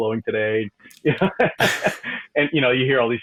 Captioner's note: laughing